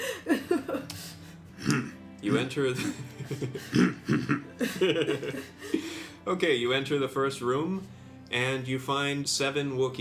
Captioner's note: laughs